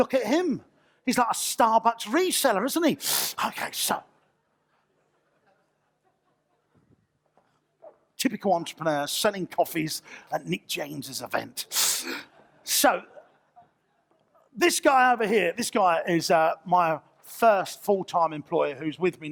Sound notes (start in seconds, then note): 4.8 audience laughter